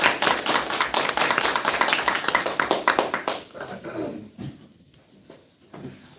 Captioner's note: applause